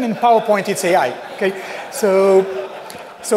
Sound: laughter

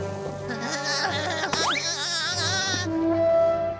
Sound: cackling; horn blowing

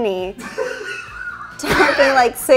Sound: all laughing

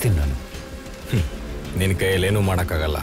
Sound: laugh

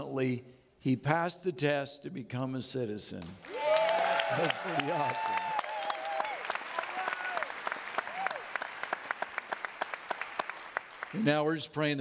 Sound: audience clapping

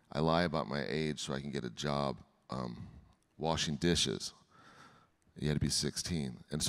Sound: none

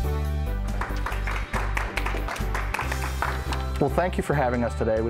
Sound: applause

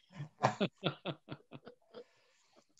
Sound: laughter

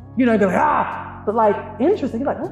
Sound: guttural exclamation

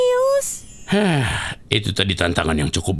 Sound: sighing

